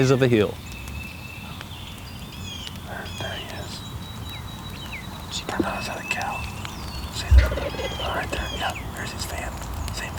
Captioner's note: whispering